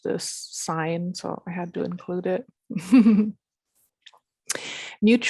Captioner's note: laughs